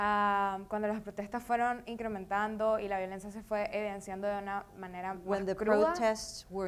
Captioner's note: speaking in foreign language